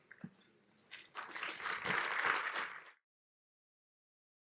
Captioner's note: applause